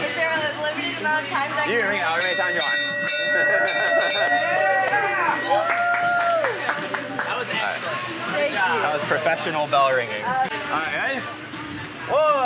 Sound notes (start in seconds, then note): 2.1 bell rings; 3.1 staff cheers